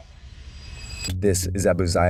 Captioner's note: dramatic ringing